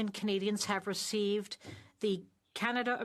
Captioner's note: speaking French